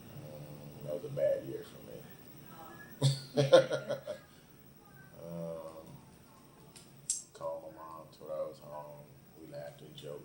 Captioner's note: both laugh